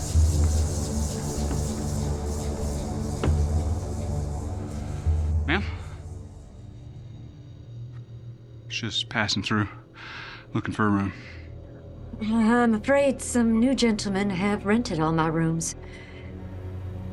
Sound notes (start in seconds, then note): 0.0 tense music; 1.4 door opens